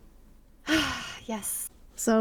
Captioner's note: sigh